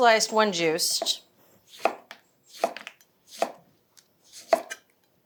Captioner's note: knife chopping